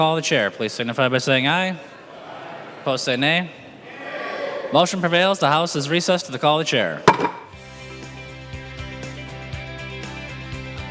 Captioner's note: chorus of ayes